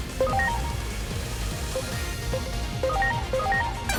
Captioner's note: digital dinging